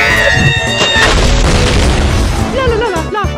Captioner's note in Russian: взрыв